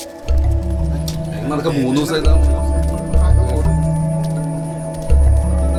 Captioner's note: indistinct chatters